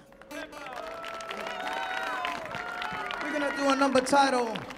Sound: audience claps; audience cheers

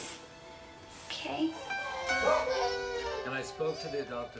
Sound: babies crying

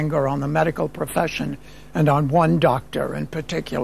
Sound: none

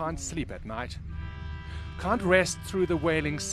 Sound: long, loud horn

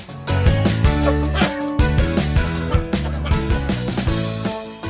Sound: starts coughing, seeking attention

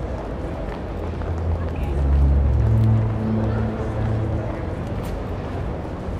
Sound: footsteps and crowd noises continue

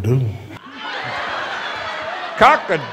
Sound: laughter

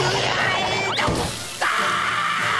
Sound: groaning; screaming

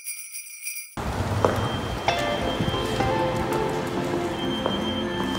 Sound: jingling; heal clanking

